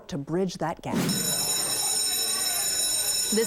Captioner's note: school bell rings